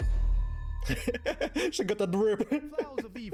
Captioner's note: dramatic music; laughing